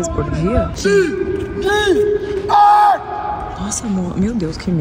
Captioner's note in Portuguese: homem gritando